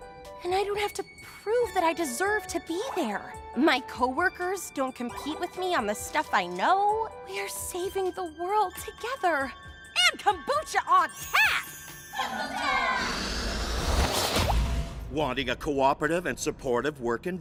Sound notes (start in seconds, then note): 12.9 whoosh; 13.9 pop